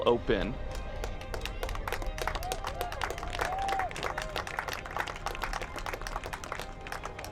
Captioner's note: applause